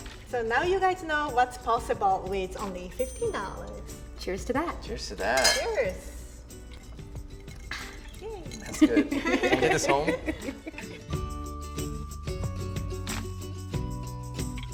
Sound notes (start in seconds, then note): 8.6 women laugh; 10.7 cheerful music